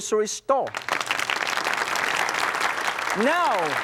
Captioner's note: audience applauds